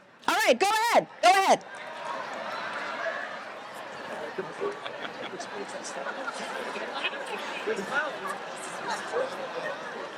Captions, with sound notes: All right, go ahead, go ahead. (audience chatters)